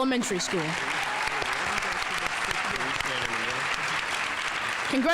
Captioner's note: audience applauding